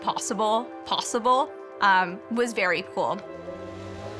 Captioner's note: engine humming